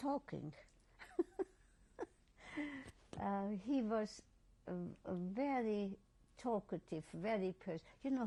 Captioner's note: laughs